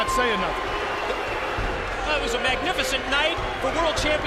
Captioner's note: crowd cheering